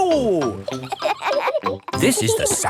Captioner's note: kids laughing